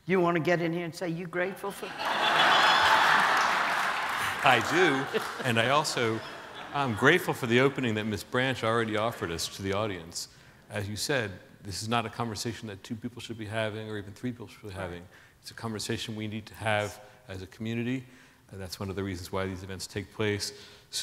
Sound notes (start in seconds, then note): 1.8 audience laughing